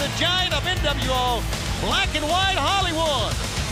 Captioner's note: crowd cheering